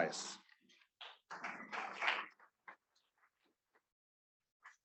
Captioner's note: students clapping